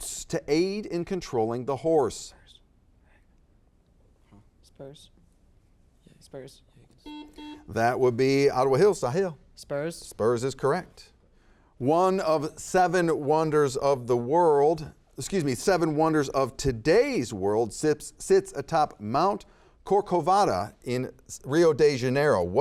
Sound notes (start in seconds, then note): 7.0 buzzer beeping